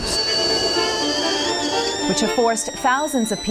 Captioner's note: kettle whistles louder